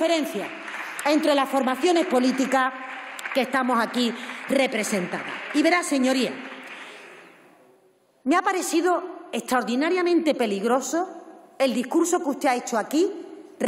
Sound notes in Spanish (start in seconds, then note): 5.1 Aplausos